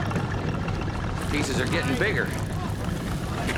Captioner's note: rain pattering